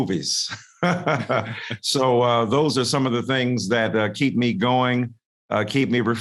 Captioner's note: laughs